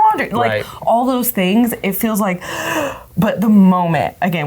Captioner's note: gasps